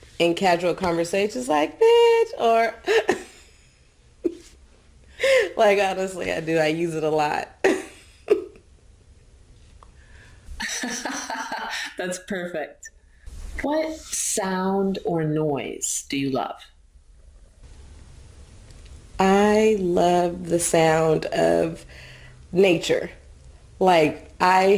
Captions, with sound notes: in casual conversations like, bitch, or, (laughs), like honestly I do, I use it a lot. (laughs) - (laughs) That's perfect. What sound or noise do you love? - I love the sound of nature, like I have been,